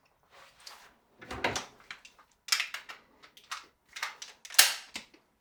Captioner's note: gun clicking